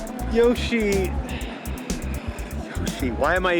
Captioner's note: sigh